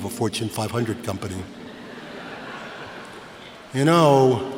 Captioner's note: laughter